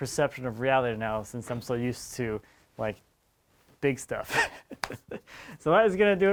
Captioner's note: laughs